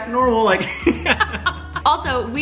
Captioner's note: laughing